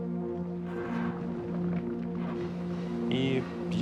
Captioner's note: dirt rumbling